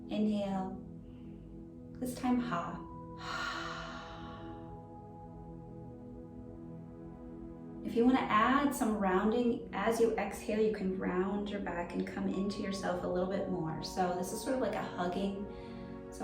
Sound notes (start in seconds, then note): 3.0 exhaling deeply